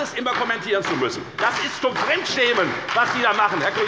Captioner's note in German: Beifall bei der FDP